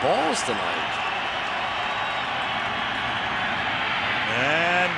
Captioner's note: cheering